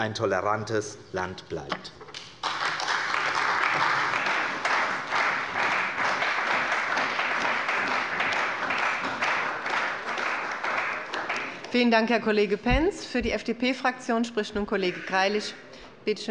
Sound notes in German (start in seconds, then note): 2.2 Beifall bei der CDU und dem BÜNDNIS 90/DIE GRÜNEN